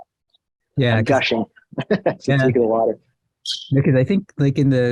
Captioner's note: laughs